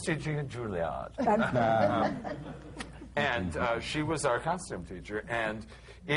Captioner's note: laughter